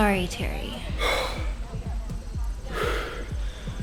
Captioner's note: terry breathing heavily